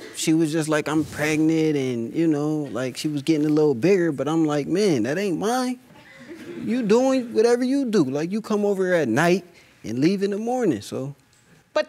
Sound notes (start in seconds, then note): 5.9 audience laughing